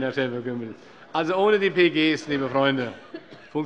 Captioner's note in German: Heiterkeit